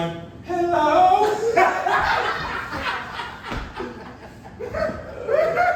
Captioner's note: audience laughing